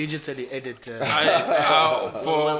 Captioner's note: laughs